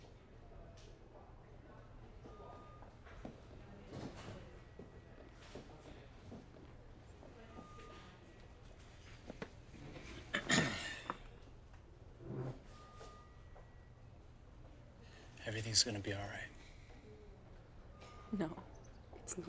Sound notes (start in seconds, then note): 10.3 clears his throat